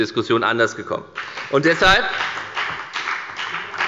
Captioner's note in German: Beifall bei der FDP